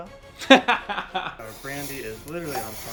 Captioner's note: laughing